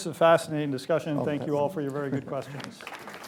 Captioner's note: applause